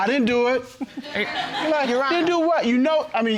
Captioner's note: audience laughing